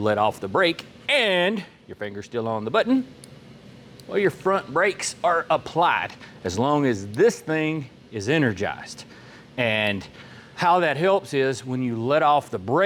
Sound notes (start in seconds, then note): none